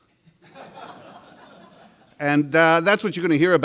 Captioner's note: laughter